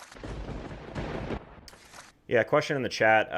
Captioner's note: thunder rumbling